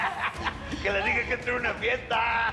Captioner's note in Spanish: Carcajadas